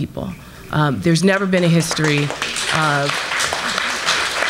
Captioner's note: applause